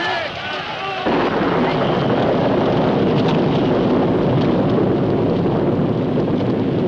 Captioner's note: thunderclap